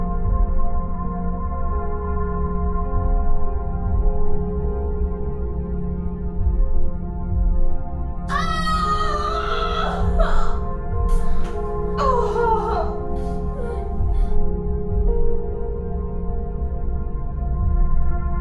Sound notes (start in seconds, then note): 8.3 woman screams in pain in distance